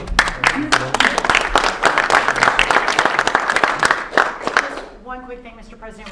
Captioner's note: applause